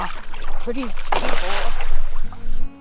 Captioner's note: water splashes